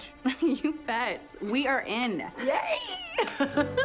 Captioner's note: chuckles; laughs